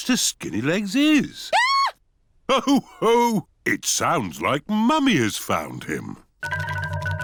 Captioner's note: mummy pig screams